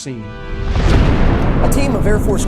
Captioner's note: missile blasting